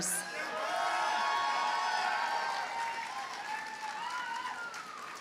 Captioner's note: audience cheers and applauds